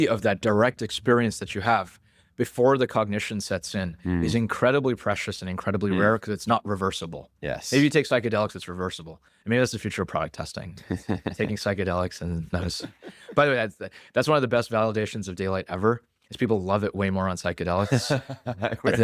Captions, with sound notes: of that direct experience that you have before the cognition sets in- ... is incredibly precious and incredibly rare- ... 'cause it's not reversible. Yes. Maybe you take psychedelics, it's reversible. Maybe that's the future of product testing. [laughs] Taking psychedelics and those... [laughs] By the way, that's one of the best validations of daylight ever, 'cause people love it way more on psychedelics- [laughs]